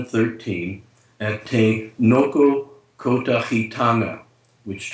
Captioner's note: speaks in foreign language